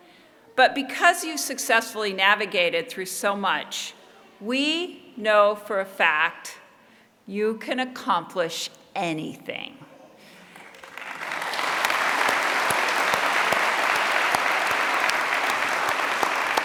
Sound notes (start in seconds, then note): 10.4 applause